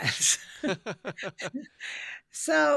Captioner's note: laughs